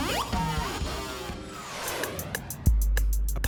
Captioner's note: jet swoosh